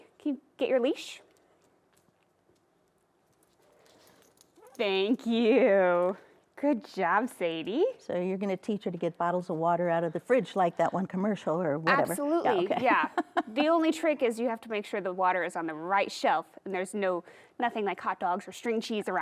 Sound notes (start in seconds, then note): 13.2 laughing